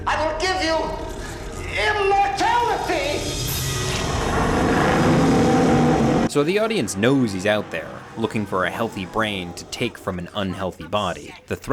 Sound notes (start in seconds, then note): 2.7 dinosaur growls